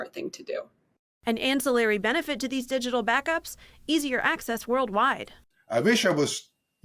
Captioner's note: voice-over